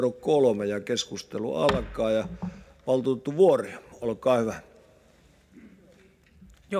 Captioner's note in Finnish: kopauttaa nuijaa